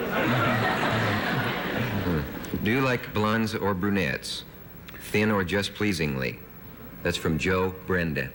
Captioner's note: laughter